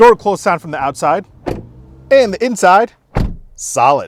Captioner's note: door shuts